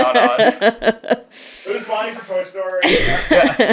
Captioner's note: laughing